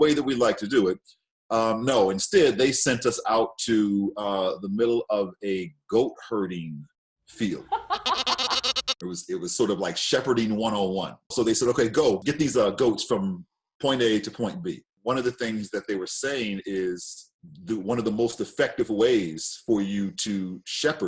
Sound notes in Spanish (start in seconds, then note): 7.7 balido de cabra